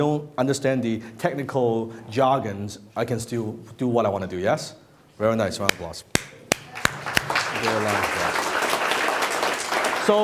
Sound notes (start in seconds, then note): 6.1 applause